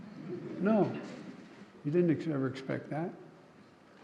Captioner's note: laughter